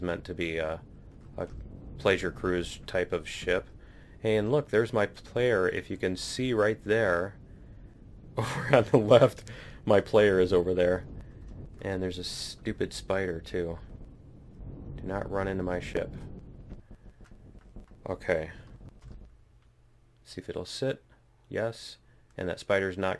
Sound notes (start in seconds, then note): 8.4 laughs